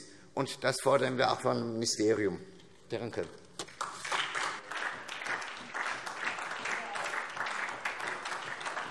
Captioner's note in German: Beifall SPD und DIE LINKE - Zuruf DIE LINKE:Wir auch!